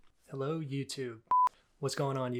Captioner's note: beeping